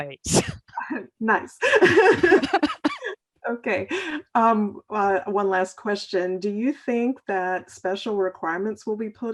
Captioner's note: laughter